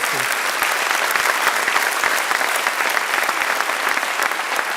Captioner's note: audience clapping